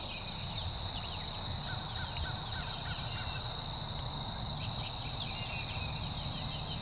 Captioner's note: insects chirp; crow caws